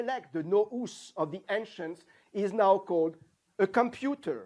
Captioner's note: non-english